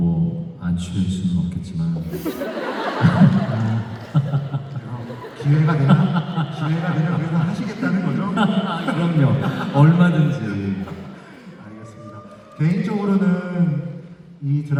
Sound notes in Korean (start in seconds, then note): 6.2 웃음